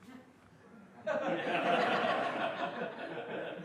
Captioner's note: laughter